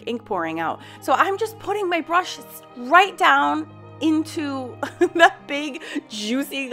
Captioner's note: laughing